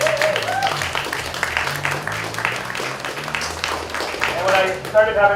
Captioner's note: applause